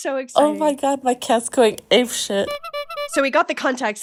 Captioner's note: clown noise